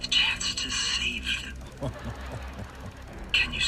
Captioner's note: chuckles